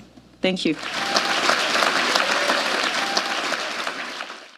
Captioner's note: applause